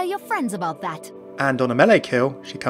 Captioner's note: voiceover